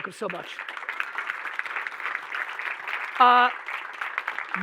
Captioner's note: audience applauding